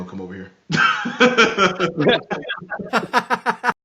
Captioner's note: laughing